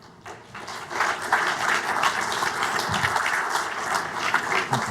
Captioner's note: audience clapping